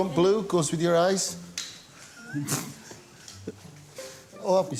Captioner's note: chuckles